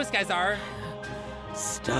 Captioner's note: heavy breathing